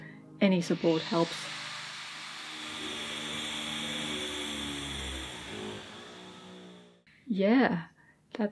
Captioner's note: loud construction noise